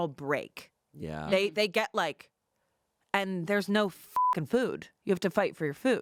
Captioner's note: beep